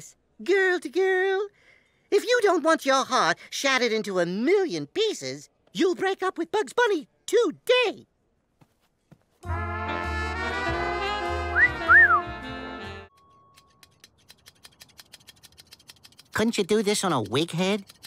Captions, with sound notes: Girl to girl? If you don't want your heart shattered into a million pieces... You'll break up with Bugs Bunny! Today! *whistling* Couldn't you do this on a wig head?